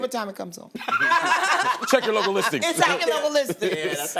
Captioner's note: laughter